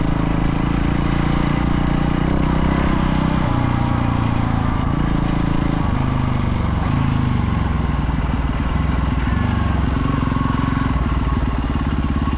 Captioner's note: engine revving